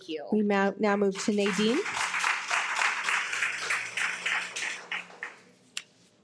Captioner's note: participants applauding